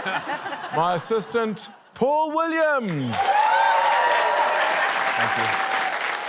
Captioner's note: laughter; cheering, applause